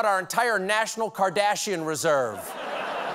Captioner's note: laughter